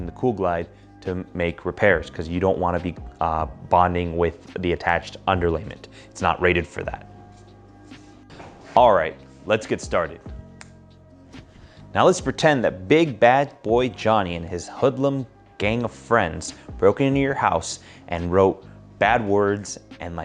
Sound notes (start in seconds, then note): 10.5 fingers snap